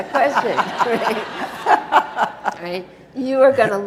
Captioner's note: audience laughs